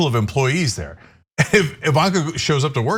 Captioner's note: laugh